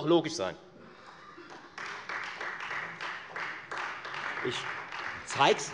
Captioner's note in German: Beifall Freie Demokraten